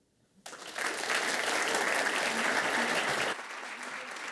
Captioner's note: attendees applauding